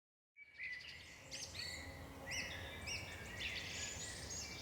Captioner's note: birds chirping